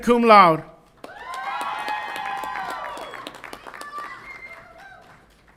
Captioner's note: audience applauds and cheers